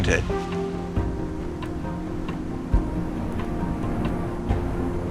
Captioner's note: storm roaring